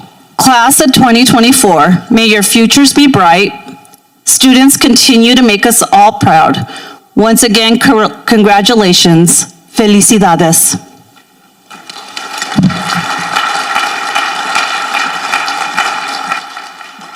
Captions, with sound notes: Class of 2024, may your futures be bright. Students, continue to make us all proud. Once again, congratulations. Felicidades. (people applauding)